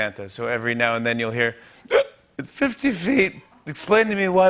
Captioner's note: belches